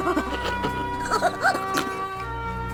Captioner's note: laugh